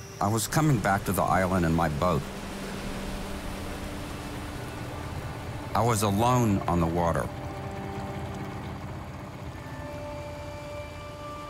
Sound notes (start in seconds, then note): 2.8 boat engine hums; 8.4 pensive music